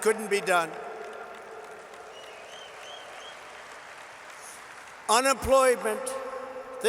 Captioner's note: applause